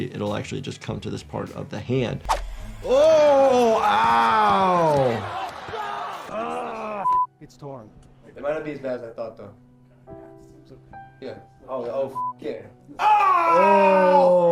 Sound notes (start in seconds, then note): 5.2 audience cheering; 7.0 beep; 10.5 gentle music; 12.2 beep